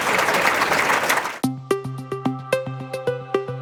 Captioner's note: applause